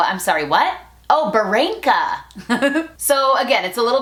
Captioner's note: laughs